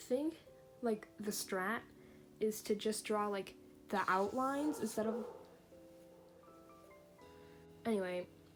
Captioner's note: dog barking twice somewhwere nearby